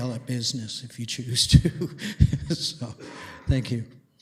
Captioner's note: laughs